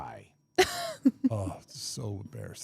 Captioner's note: laughs